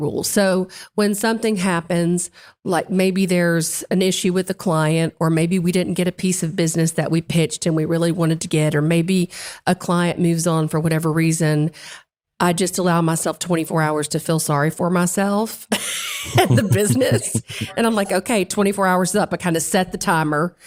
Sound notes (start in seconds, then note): 16.1 laugh